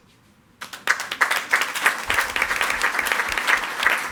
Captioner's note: all applauding